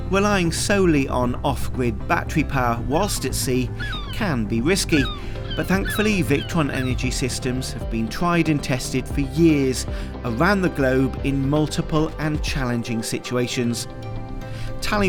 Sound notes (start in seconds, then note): 2.9 gulls squawking